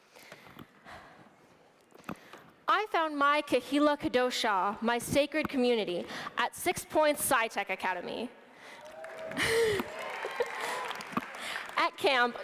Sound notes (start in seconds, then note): 8.7 applause